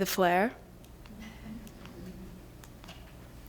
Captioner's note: mild laughter